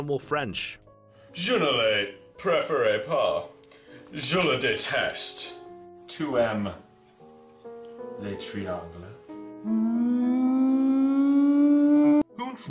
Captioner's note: french